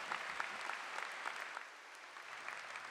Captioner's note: applause